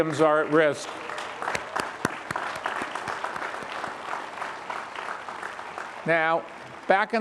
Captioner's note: all applaud